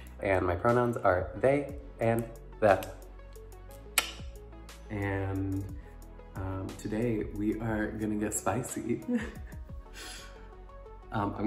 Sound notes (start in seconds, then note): 3.9 mouth clicks; 9.0 giggle